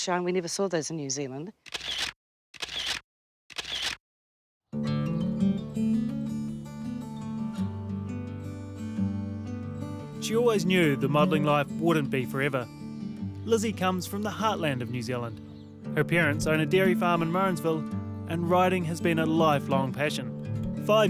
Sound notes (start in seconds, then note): 3.5 camera shutter sounds; 5.2 guitar music